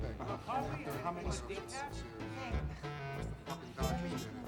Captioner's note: chatter